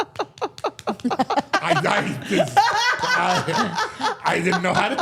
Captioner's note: all laughing